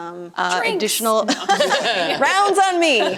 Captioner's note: laughter